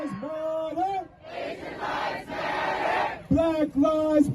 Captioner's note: crowd